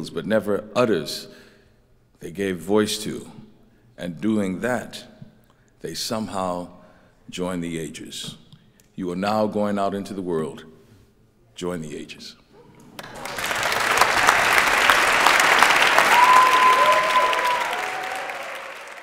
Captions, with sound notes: but never utters, they gave voice to. And doing that, they somehow join the ages. You are now going out into the world, join the ages. (crowd applauding and cheering)